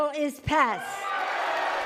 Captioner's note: cheering and applause